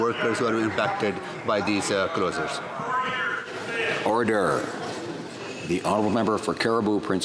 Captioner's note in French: voix de l'interprète